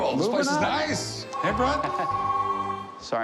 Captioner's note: phone ringing